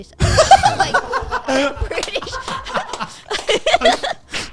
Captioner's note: everyone laughing